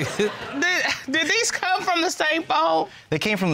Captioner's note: all chuckling